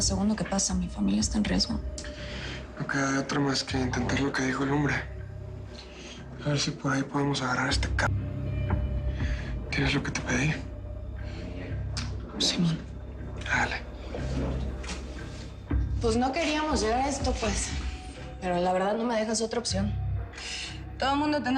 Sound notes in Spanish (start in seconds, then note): none